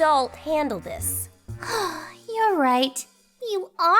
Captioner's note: sighs